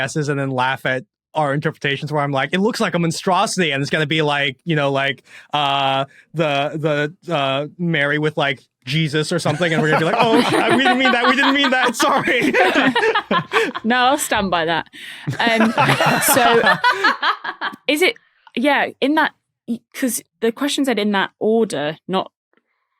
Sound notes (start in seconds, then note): 13.0 group laughing; 15.2 laughter intensifies